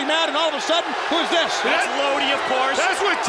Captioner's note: crowd cheering